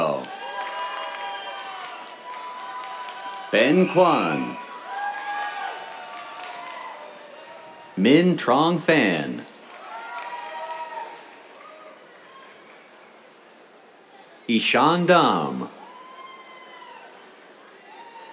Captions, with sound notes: [CHEERS, APPLAUSE] Ben Cuan. [CHEERS, APPLAUSE] Minh Trong Phan. [CHEERS, APPLAUSE] Ishaan Dham. [CHEERS]